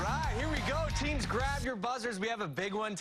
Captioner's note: cheers and applause